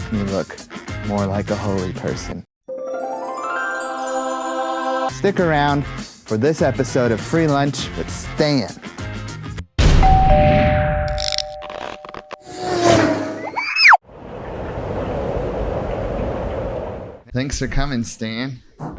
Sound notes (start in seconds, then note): 10.1 doorbell; 14.3 wind blows